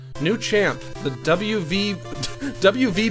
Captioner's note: laughs